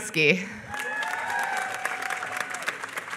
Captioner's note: applause